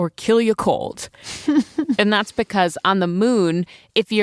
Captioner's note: laughs